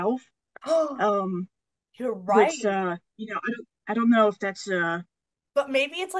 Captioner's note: gasps